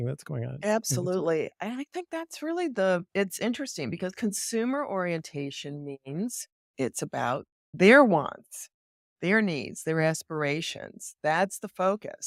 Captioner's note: laughs